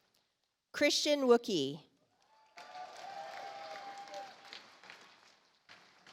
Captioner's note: audience applauds